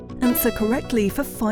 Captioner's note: buzzer chimes